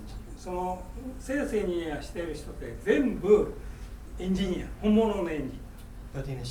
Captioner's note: speaking in foreign language